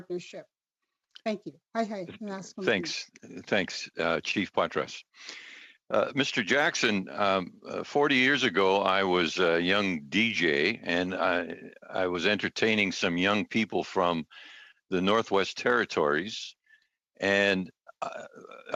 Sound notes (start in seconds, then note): 8.7 speaking Alternative Language